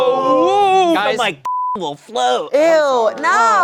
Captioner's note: beep